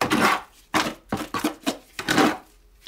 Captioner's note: grinding noises